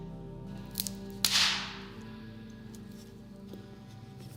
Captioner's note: loud cracking